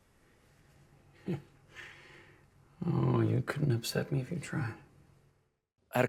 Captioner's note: chuckles